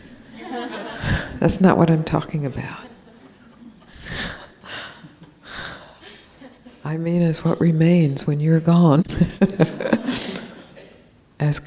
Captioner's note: laughs